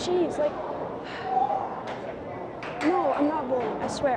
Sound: sighs

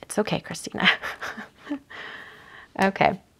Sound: chuckling

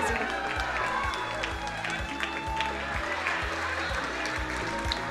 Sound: crowd cheering and applauding

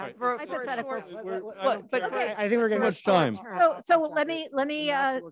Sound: several trustees talking at once

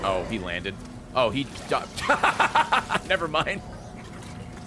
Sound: laughs

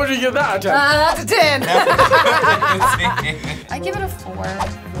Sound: both laugh

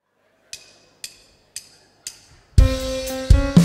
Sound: sticks clicking; upbeat music

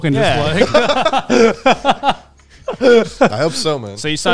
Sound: all laughing

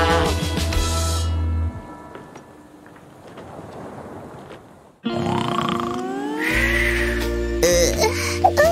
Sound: groans

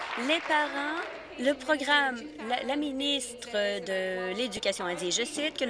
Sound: applause

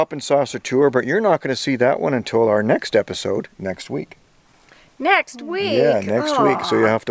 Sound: whines

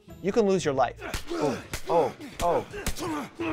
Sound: grunting, smacking

